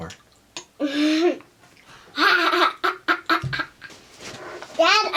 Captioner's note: laughter